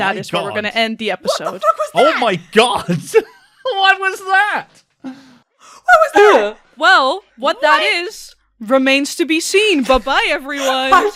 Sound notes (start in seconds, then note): 1.2 laughing